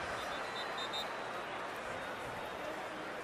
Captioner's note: whistle